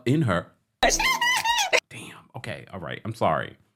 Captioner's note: laughs